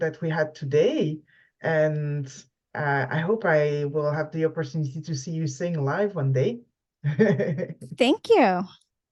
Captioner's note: laughs